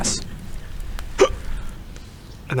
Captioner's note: hiccup